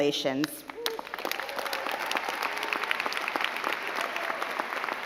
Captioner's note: crowd clapping